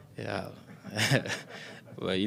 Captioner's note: laughs